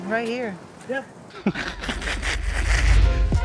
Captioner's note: laughs